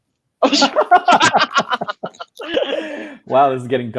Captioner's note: laughing